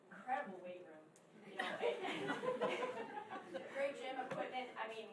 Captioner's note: laughing